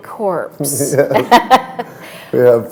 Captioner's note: laughter